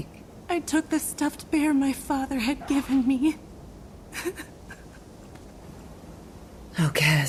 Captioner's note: sob